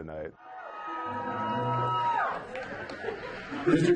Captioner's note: cheering